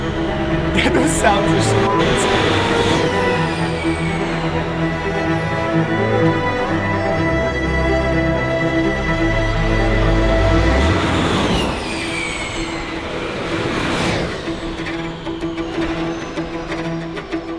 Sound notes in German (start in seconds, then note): 8.1 Geräusche von vorbeifahrenden Rennwagen; 8.1 weiterhin Musik, treibende Streicher